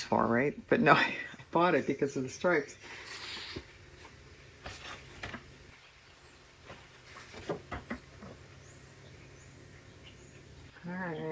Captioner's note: laughs